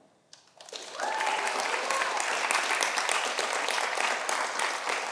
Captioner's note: audience applauding